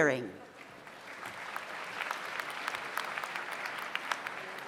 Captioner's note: audience applauds